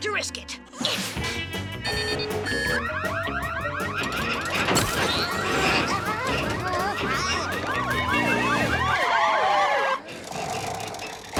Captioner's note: alarm sounding